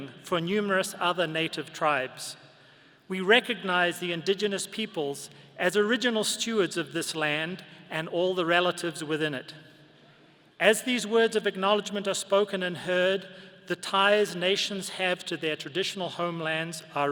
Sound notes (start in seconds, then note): none